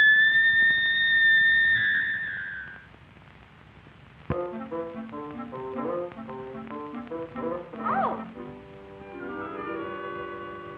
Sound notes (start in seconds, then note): 0.0 screaming; 6.2 soft music